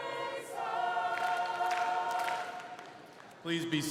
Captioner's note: all clapping